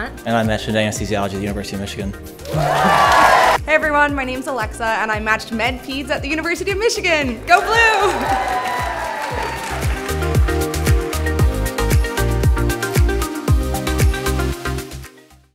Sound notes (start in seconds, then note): 2.4 attendees cheering; 7.6 attendees cheering; 10.4 upbeat music